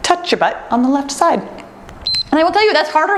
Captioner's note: timer beeps